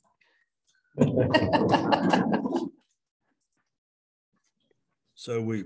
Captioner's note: chuckling